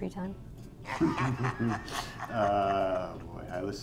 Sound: chuckling; spectator laughing

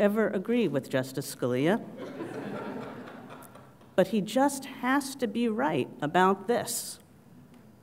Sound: laugh

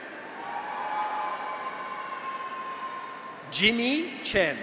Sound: graduates cheer

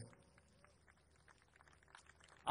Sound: applause

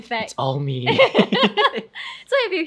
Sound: both laughing

